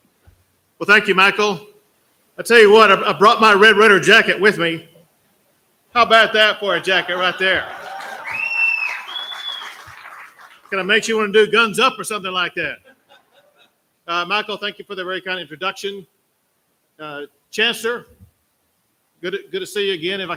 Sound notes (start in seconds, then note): 6.9 applause; 12.8 laughter